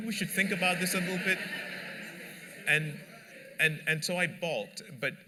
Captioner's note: laughter